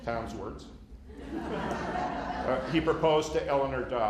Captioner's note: laughter